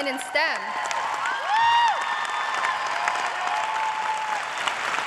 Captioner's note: cheers and applause